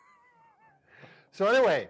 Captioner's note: both laughing